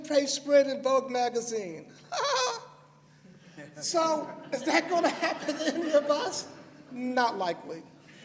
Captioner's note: laughter